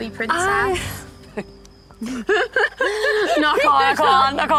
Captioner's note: laughs